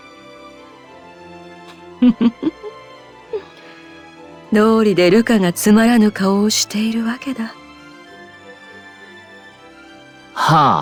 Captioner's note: laugh